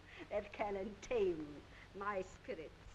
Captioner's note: none